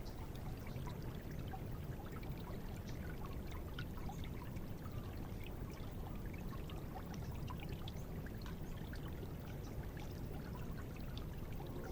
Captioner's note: water burbling and birds chirping